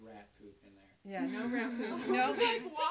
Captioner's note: all laugh